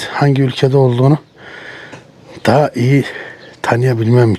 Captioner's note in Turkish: boğazını temizler